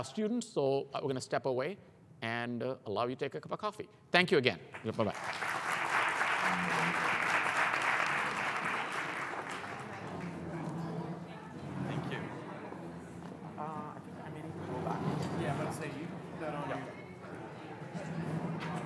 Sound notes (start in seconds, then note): 4.7 applause